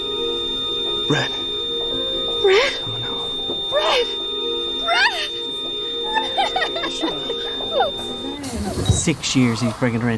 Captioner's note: flatline noise